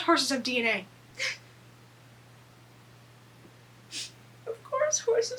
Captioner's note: crying